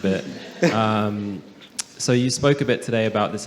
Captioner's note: some laughter